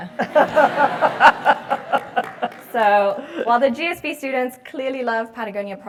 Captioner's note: laugh